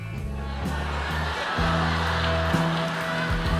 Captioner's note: audience laughs